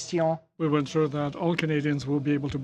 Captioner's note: speaking French